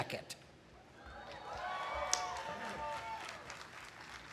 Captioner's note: cheering